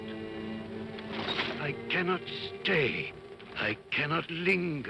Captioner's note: chains rattle